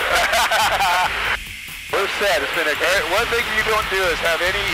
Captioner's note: laughing